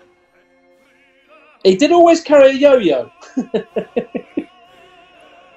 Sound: chuckling

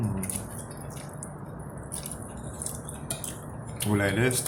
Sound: chrap chrap gulp chrap chrap chrap

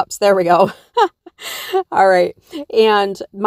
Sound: laughs

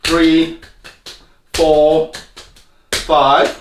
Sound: slapping

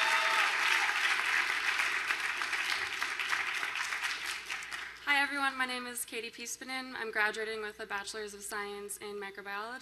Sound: applause

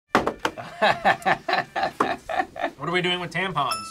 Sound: laughs

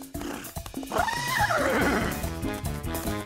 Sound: neighing

